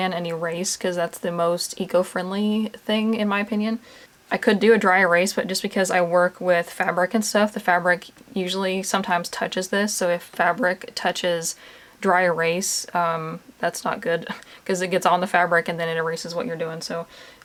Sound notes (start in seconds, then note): none